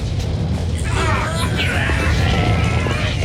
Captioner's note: all grunting